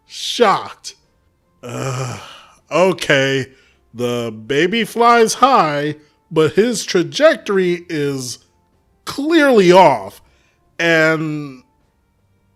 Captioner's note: sigh